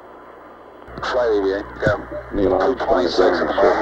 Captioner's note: mission Control Audio